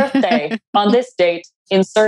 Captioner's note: laughs